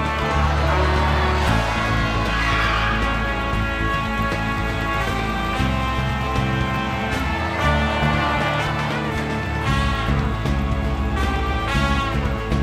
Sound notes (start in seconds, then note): 0.1 audience groaning; 2.2 tires squeal; 3.7 audience cheering; 7.2 audience groaning; 9.6 audience cheering